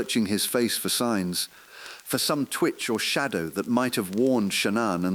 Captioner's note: exhale